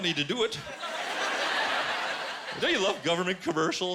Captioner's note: laughter